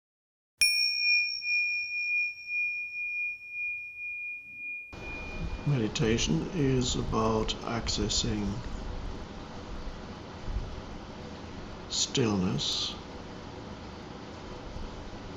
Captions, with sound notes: (bell dinging) - Meditation is about accessing stillness